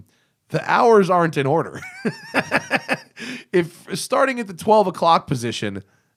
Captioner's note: laughter